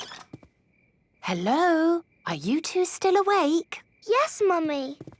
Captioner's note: whisper